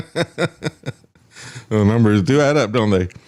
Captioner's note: laughs